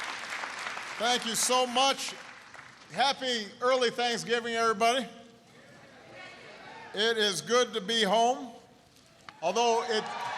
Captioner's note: applause; applause